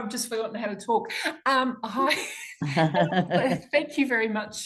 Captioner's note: laughter in background